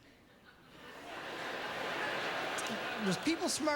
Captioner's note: laugh